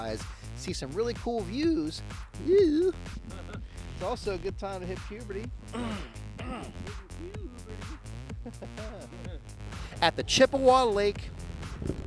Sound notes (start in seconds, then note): 5.7 clears throat